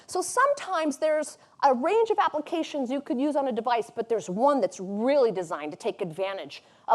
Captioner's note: none